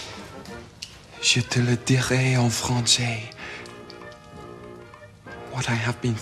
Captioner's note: speaking french